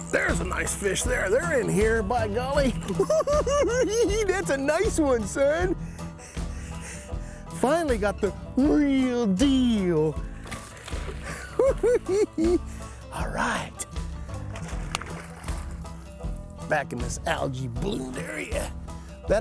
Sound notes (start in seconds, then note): 2.9 cackling; 11.2 cackles